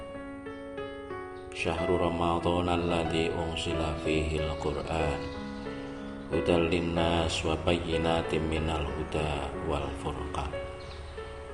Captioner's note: reading a quran verse